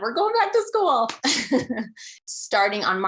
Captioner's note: laughing